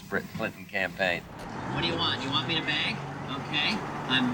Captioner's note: imitating Bush, on TV